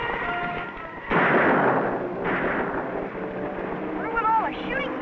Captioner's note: intense dramatic music; gunshots